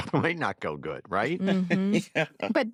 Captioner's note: chuckles